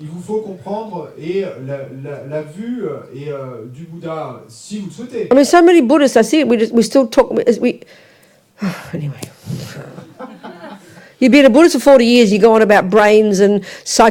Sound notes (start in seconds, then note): 0.1 audience member speaks in French; 8.1 sighs; 9.8 audience laughs